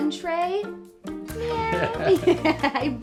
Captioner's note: Jillian laughs